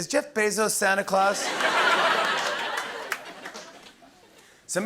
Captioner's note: laughter and applause